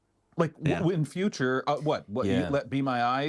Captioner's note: laughs